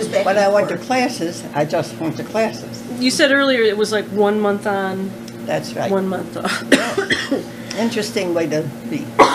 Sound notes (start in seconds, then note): 6.4 coughing